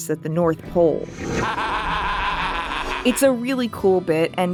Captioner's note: evil laughing